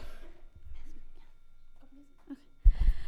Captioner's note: speaking off-mic